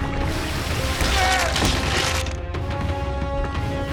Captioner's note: screaming